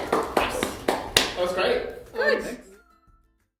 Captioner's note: clapping